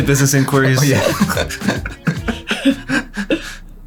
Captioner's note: laughing